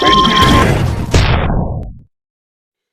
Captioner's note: cannon